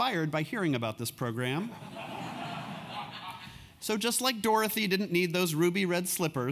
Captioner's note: laugh